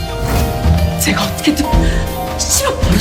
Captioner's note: Tiếng ồn phát sóng trực tiếp